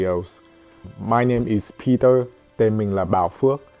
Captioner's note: Tiếng Anh